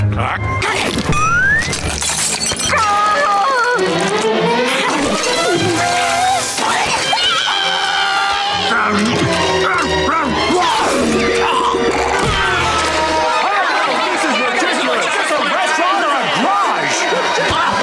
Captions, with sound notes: [shattering] [screaming] [screaming] This is ridiculous! Is this a restaurant or a garage?!